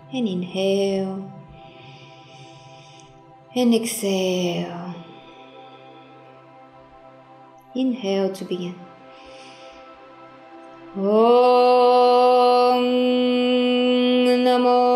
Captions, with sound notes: and inhale (breathes deeply) and exhale. Inhale to begin (breathes deeply). (chants in foreign language)